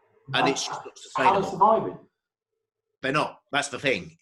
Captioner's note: murmurs